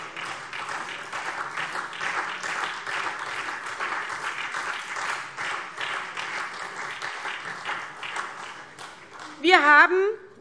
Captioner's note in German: Beifall SPD